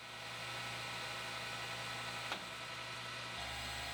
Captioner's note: machine whirring